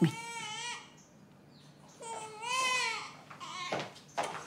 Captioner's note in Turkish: Bebek ağlama sesi